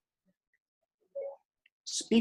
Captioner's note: phone beeping